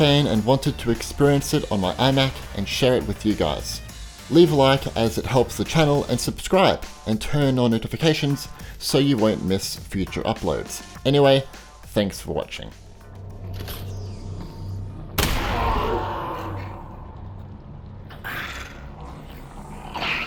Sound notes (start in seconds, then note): 13.6 gun reloading; 15.2 gun firing; 15.6 NPC groaning